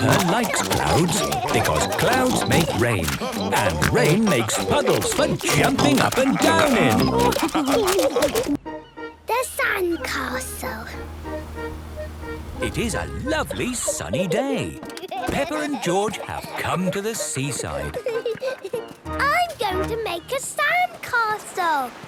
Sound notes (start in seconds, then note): 7.5 laughter